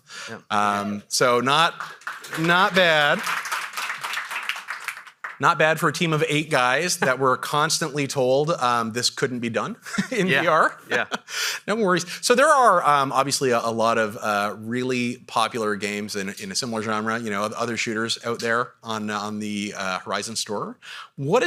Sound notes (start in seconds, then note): 1.3 audience applauding